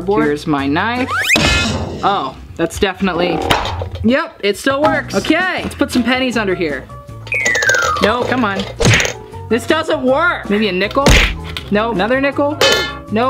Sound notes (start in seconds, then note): 1.3 banging